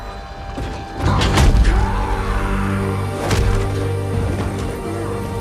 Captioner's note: roaring